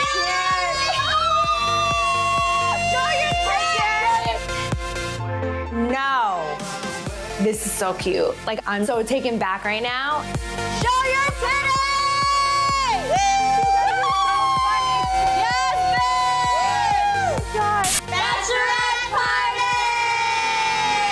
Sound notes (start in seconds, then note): 0.0 screaming; 15.5 excited screaming